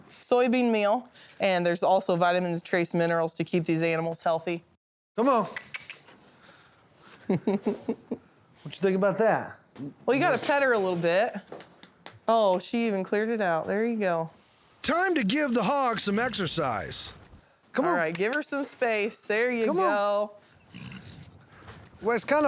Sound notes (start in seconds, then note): 5.6 clicks tongue; 6.8 laughing